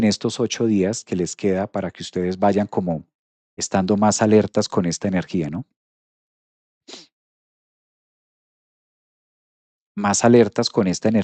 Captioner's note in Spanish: resoplido